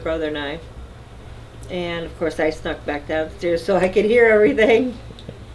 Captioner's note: laughing